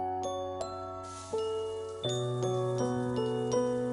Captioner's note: shower running